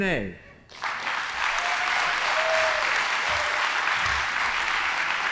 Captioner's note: audience applauding